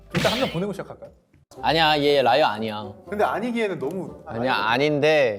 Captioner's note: somehow serious